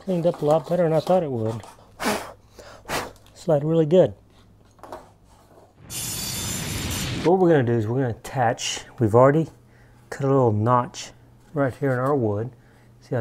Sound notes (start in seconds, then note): 2.2 blows; 5.8 whooshing sound